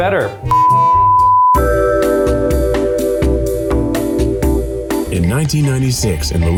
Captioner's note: beep; elevator music